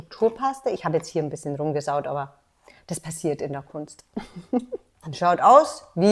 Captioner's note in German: lacht